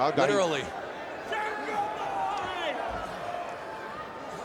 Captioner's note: crowd yelling